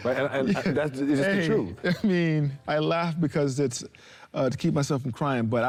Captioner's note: laughs